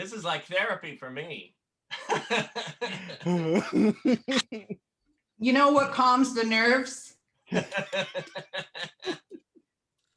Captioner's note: laughter